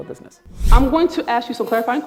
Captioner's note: air whooshing